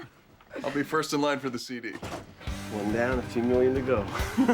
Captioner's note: all chuckling; door shuts; chuckling